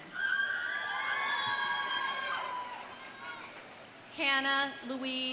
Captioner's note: audience cheering